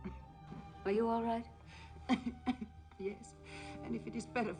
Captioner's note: coughing